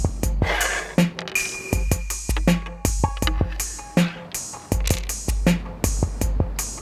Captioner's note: calm music continues; dice clinking and stones sliding on wood; calm music continues